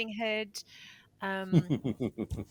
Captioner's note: laughing